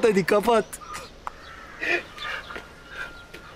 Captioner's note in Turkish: Gülme sesi